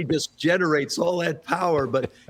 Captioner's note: laughter